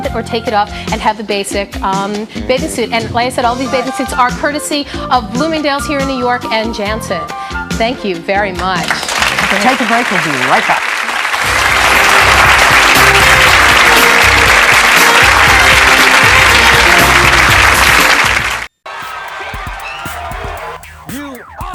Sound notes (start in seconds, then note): 8.4 audience clapping; 11.1 audience clapping; 11.4 jazzy music